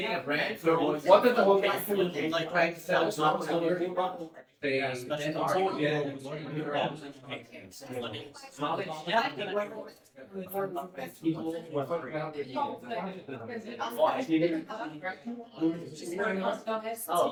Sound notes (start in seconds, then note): 6.9 people chattering